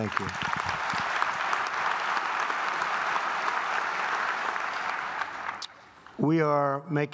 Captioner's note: applause